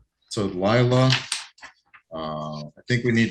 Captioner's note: paper rustling